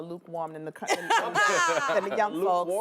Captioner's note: laughs